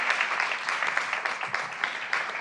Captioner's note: applause